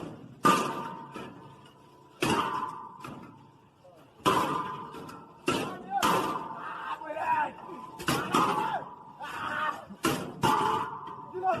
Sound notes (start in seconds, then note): 0.0 metal clanging; 5.8 men shouting